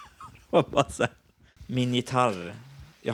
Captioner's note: laughter